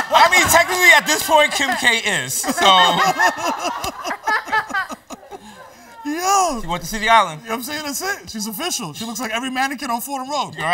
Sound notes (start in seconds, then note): 0.0 laughter; 2.4 laughs